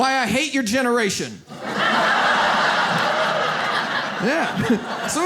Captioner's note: audience laughs